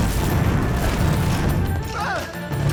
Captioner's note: groaning